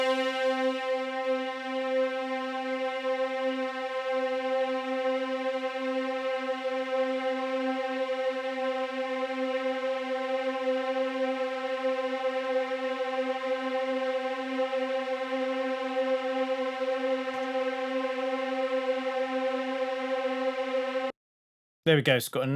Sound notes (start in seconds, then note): 3.6 spacey sound